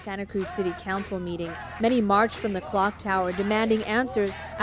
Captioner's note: chanting